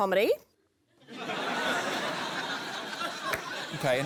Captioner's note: laughter